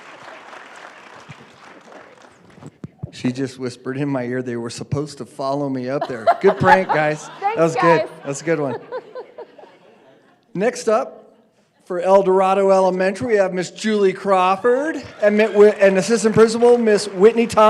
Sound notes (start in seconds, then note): 0.0 applause